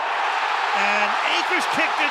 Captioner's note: cheering